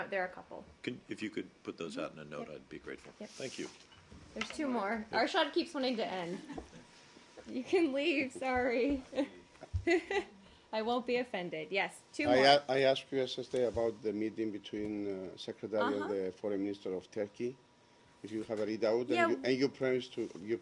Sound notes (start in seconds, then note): 9.8 laughter